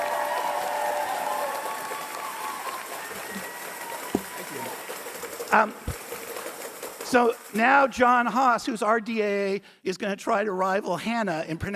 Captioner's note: cheers and applause